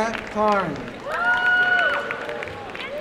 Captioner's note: applause and cheering